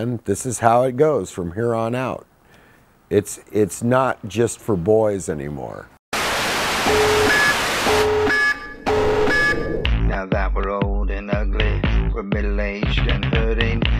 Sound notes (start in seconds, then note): 6.1 static; 6.3 aggressive sirens